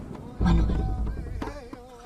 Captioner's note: whispering